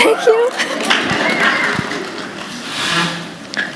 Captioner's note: applause